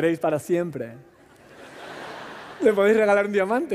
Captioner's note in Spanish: Risas